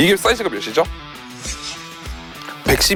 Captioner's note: whispers